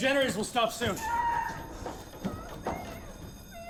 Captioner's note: screams